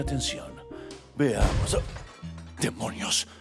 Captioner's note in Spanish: Sonido de ruptura